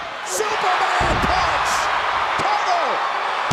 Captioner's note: crowd cheers